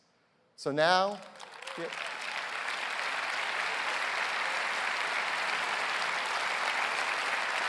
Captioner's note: applause